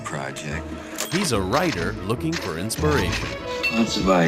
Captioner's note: male Voice